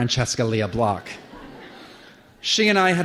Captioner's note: laughter